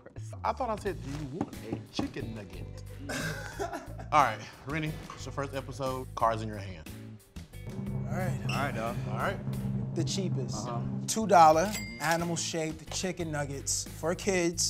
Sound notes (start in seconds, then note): 3.0 laughs